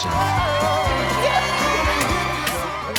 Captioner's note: guests cheering; Katya applauds